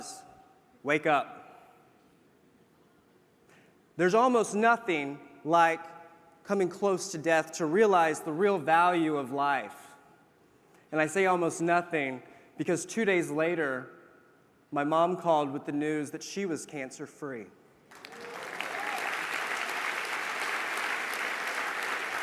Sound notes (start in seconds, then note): 17.9 applause